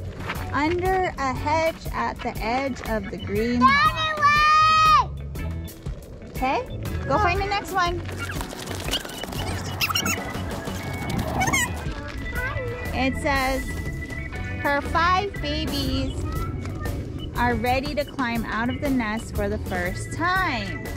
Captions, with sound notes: Under a hedge at the edge of the green lawn. (kids yelling) Hey, go find the next one. (fast forward talking) It says her five babies are ready to climb out of the nest for the first time.